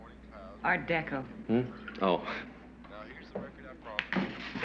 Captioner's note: chuckles